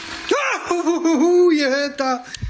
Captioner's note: yells